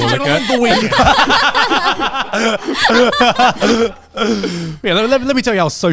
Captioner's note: everyone laughing